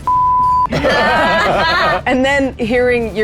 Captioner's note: group laughs